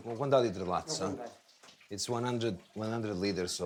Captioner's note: speaking foreign language